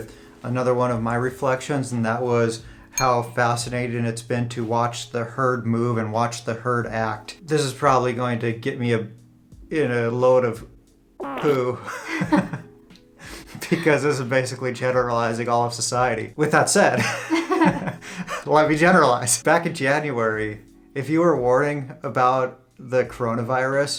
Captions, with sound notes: another one of my reflections and that was how fascinating it's been to watch the herd move and watch the herd act. This is probably going to get me a in a load of poo [Laughter] because this is basically generalizing all of the society. With that said, [Laughs] Let me generalize. Back in January, if you were warning about the corona virus,